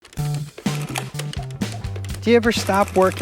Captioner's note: calculator clicking